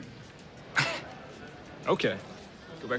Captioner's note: laughs